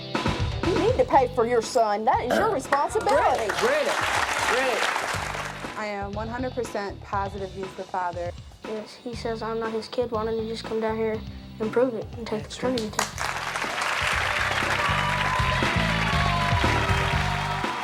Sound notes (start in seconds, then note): 2.6 audience applauds; 12.8 audience applauds